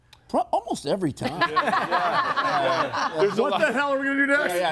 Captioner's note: group laughs